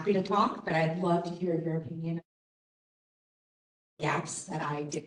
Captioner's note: audio cut